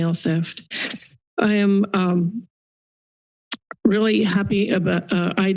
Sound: clicks tongue

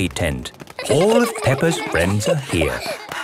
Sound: excited babbling

